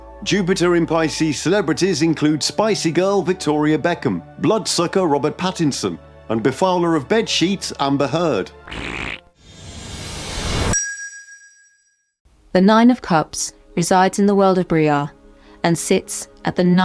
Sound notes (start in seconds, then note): 8.6 raspberry sound